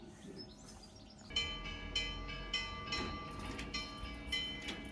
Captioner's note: church bells